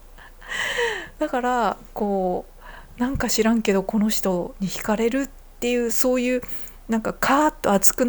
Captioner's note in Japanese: 息をのむ音; 笑い